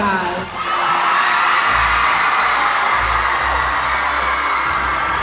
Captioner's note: audience cheering